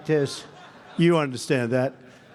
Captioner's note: laughter